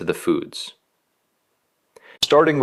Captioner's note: pause